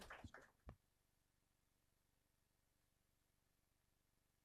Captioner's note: applause